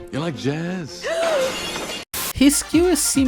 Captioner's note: screams in pure terror